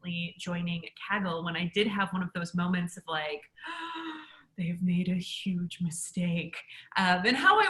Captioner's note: gasp